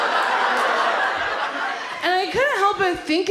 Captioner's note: audience laughs